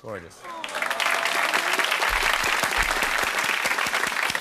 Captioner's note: applause